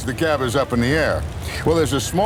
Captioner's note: voiceover